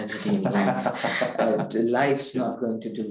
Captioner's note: laughing